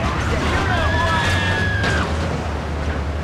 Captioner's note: car engine roaring; speaking in foreign language